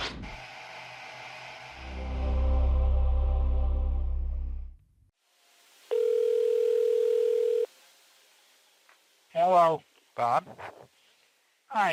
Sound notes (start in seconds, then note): 0.3 intro plays; 5.9 dial tone